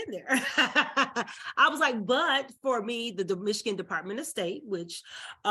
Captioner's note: laughs